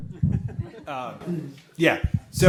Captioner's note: audience laugh